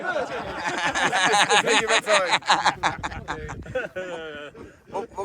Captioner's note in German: Gelächter